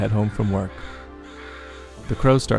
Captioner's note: crows cawing